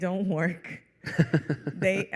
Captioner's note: laughter